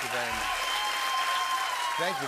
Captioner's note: cheering and applause